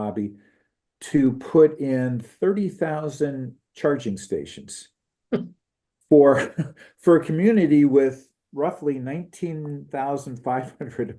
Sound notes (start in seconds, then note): 6.1 laugh